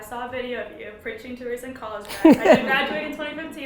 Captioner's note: Gary laughs